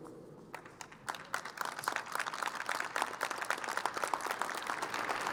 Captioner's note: crowd applauding